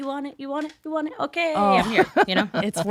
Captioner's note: both laughing